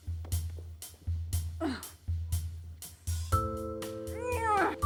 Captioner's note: upbeat jazz music; Joan grunting